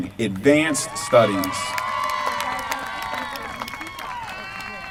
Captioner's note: applause